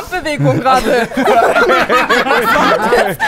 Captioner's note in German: Gelächter